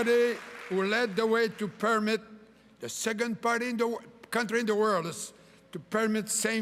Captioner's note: cheering and applause